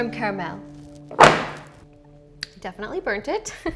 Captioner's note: mixture bangs